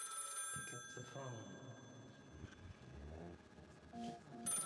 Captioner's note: telephone ringing